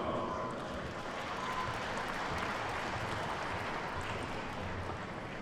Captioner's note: attendees clapping